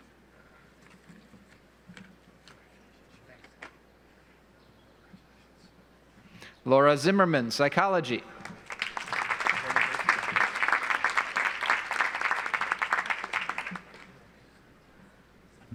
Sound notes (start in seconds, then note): 8.4 audience applauds